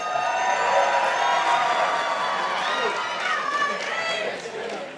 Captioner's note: participants applauding